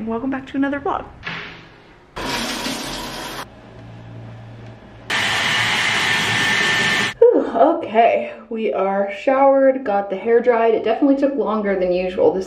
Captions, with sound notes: welcome back to another vlog. (shower splattering water) (blowdryer whirring) Okay, we are showered, got the hair dried. It definitely took longer than usual.